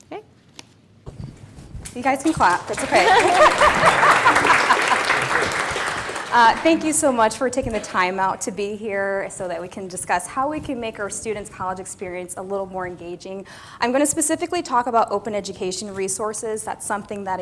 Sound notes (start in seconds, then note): 2.2 applause; 2.7 laugh